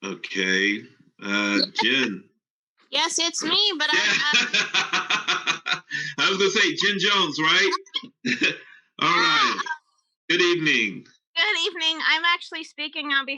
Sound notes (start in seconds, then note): 3.4 laughs